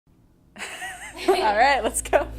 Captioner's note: laughing